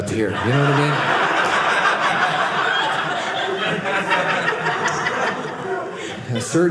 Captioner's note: audience laughing